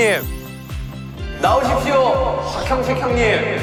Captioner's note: pit-a-pat